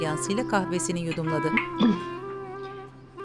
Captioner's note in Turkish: Boğaz temizleme sesi